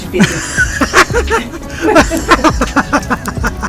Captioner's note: laughter